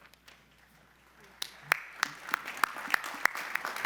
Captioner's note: applause